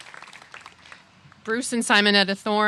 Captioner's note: applause